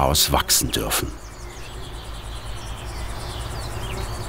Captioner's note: birds chirping, crickets chirping